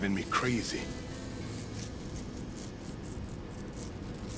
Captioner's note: tearing Continues